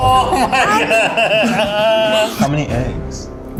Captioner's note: laughs